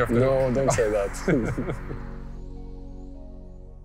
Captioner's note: laughing